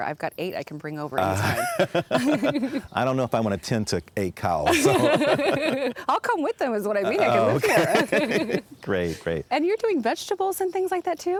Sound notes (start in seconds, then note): 1.2 both laugh; 7.0 both laugh